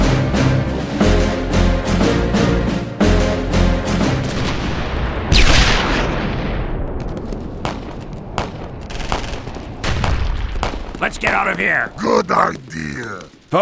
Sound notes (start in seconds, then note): 4.1 gunfire